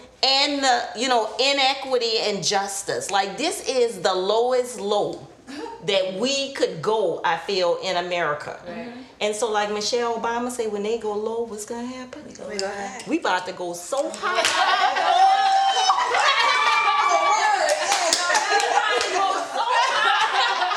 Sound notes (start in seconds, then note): 14.2 group cheering; 17.2 group chattering